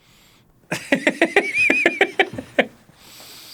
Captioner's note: laughing